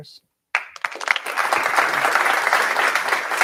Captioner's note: applause